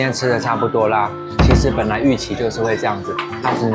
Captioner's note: panicking 😫